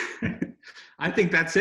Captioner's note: laughs